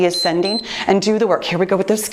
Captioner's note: timer beeps